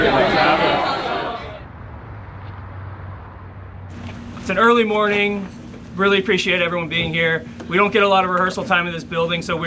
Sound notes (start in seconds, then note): 1.0 teammates murmur